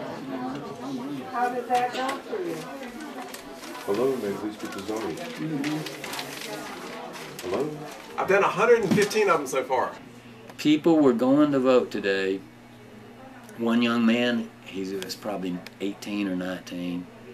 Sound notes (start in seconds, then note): none